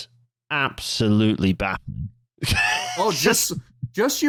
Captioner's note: laughs